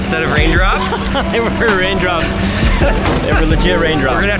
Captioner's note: laughs